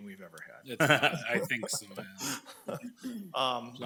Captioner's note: people laugh